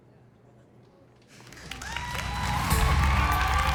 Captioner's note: whooping, applause